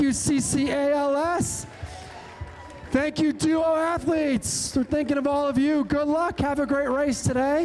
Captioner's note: cheering